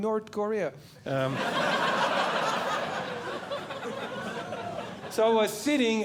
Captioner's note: audience Laughing